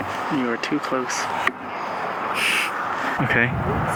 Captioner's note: snorts